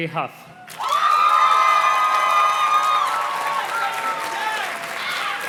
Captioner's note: audience cheers and claps